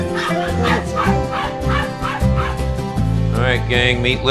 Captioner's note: indistinct chatter